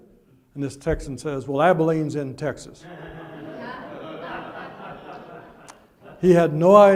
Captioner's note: audience laughs